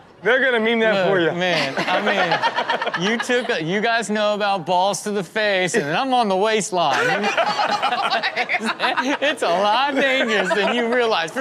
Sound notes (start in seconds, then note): 6.9 everyone laughs; 6.9 laughs